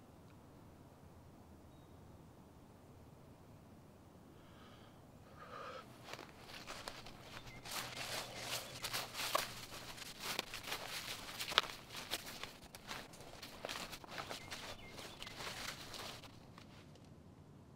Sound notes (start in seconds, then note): 5.2 loud breathing; 7.4 crunching leaves